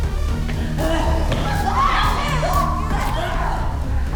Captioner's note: both moaning; dramatic music